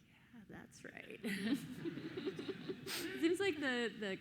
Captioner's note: everyone laughing